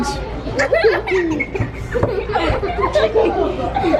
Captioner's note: laughter